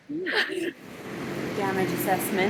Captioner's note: women laughing